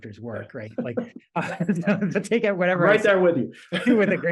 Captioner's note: laugh